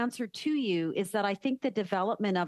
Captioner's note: speaking French